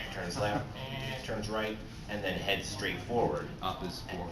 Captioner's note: eeeenh